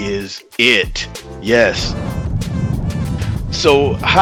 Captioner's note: fire roaring